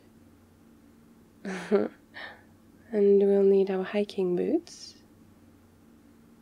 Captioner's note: laughs